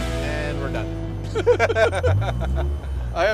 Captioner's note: both Laughing